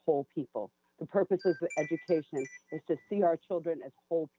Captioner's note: chime